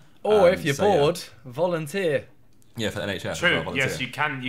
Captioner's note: none